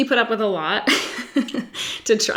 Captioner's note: laughs